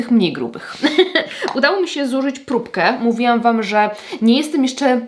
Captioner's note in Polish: śmiech